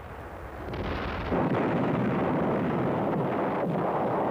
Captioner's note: guns fire